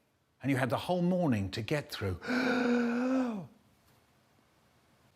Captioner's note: deep inhale